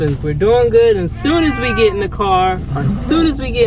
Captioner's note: meow